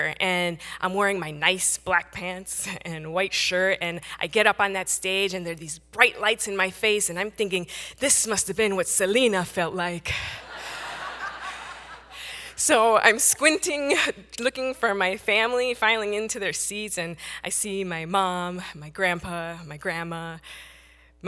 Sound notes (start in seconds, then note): 10.3 audience laughing